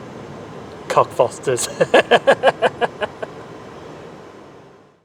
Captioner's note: laughs